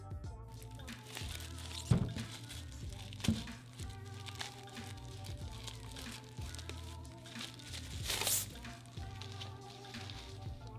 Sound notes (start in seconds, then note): 1.1 paper unwrapping